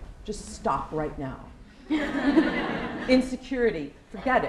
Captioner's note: laughter